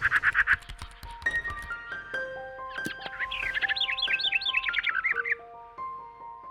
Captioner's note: tranquil music; birds chirping